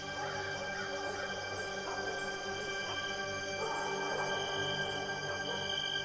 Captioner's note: serene music; dogs barking; insects chirping